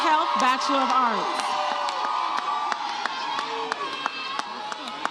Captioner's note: audience cheers